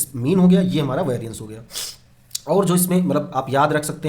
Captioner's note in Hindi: नाक से की जाने वाली आवाज़